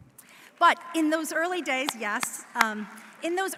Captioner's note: audience applauding